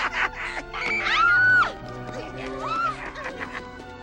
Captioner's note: Quint and Cyrus laugh; woman screaming